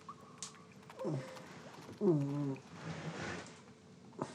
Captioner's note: moaning